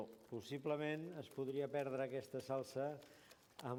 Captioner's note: non-english speech